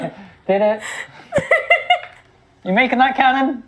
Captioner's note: laughs